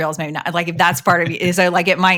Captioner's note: chuckles